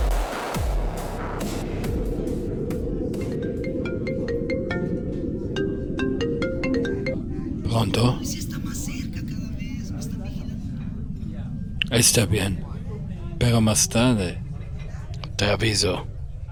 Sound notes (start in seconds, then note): 3.1 phone rings